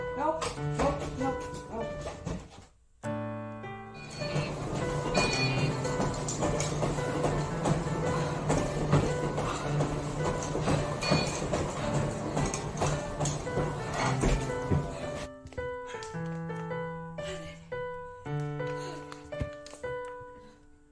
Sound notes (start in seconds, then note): 4.2 treadmill beeps; 13.8 heavy breathing